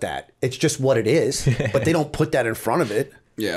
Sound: chuckle

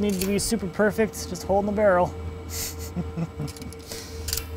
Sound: laughs

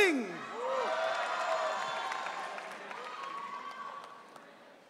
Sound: audience cheering

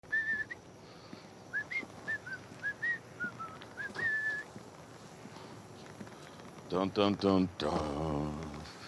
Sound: whistling

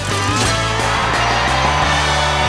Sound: cheering

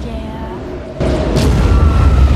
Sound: all scream

